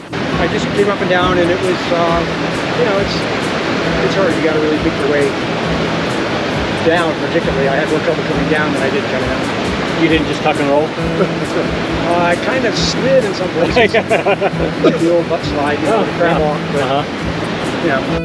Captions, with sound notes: I just came up and down, and it was uh, you know it's it's it's hard, you got to really pick your way down particularly; I had more trouble coming down and I did coming up You didn't just tuck and roll? [laughing] Uh, I kind of slid in some places. Yeah [laughing] Do a butt-slide. Yeah. You know.